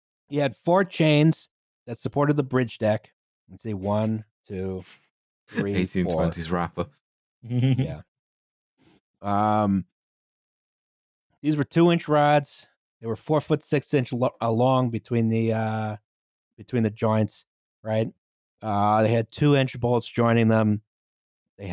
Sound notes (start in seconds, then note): 7.5 chuckles softly